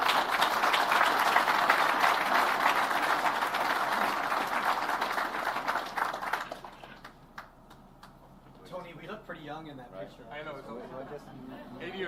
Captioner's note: applause